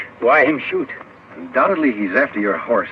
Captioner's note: none